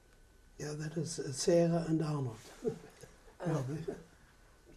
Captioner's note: laughs